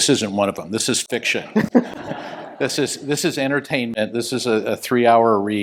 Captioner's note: laugh